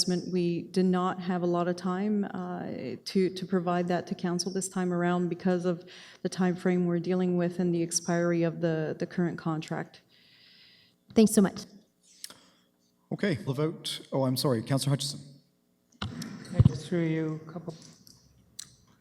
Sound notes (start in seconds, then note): none